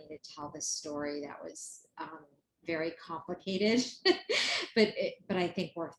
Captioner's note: laughs